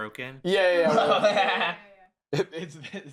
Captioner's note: laughs